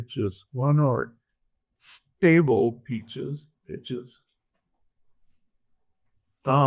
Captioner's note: imitating pitch